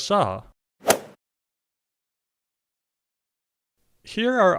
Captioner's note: golf swing sound effect